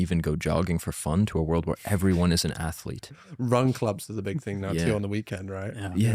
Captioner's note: laughs